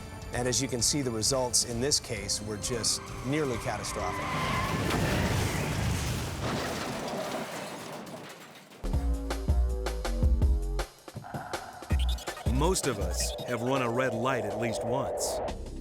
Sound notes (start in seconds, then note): 4.9 tires screeching; 4.9 vehicles thudding; 8.9 tense music